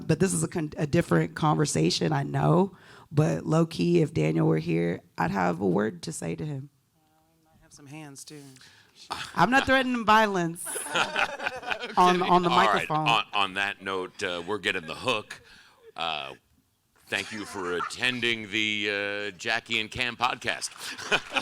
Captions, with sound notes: But this is a different conversation, I know, but low key, if Daniel were here, I'd have a word to say to him. - We might have some hands too. - I'm not threatening violence (group laughing) on the microphone. - On that note, we're getting the hook. Thank you for attending the Jackie and Kam Podcast.